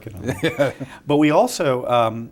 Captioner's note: laughs